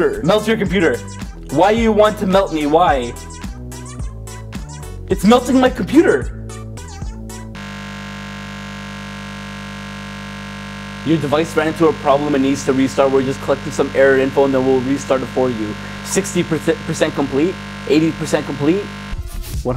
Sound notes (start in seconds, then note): 7.8 computer buzzing